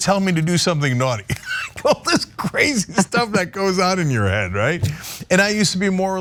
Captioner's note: laugh